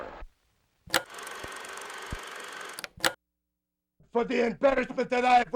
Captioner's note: film projector clicks; film reel ticking